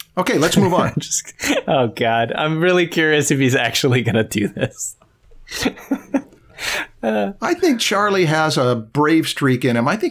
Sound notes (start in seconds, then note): 0.4 laughter